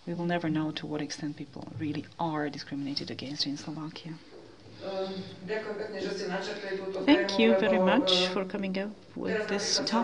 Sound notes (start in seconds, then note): 5.5 non-english